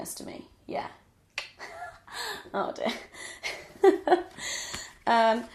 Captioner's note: hysterical laughing